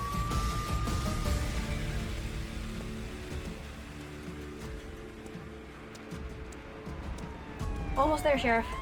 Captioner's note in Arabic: خطوات بطيئة